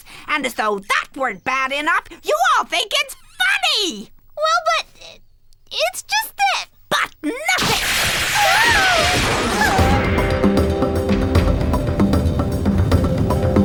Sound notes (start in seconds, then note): 7.5 zapping; 9.8 upbeat music